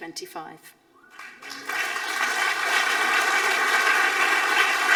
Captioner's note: audience applauding